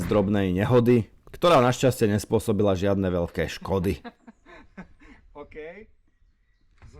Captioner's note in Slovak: smiech